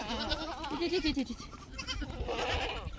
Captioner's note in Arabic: ضحك